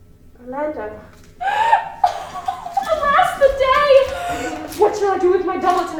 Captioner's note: laughing